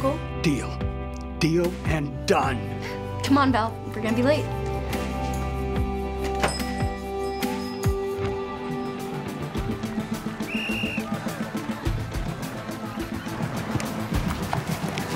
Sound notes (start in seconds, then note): 10.3 whistle toots